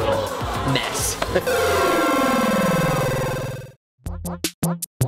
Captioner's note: digital sound of video game ending